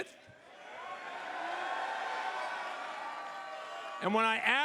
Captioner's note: crowd cheers